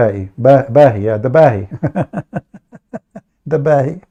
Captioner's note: Ketawa